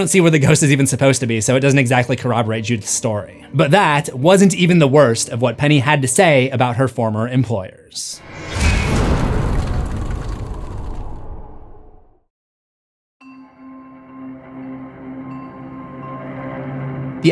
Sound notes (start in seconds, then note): 8.2 impact